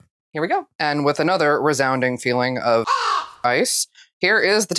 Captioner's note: caw